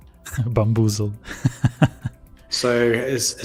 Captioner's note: laughs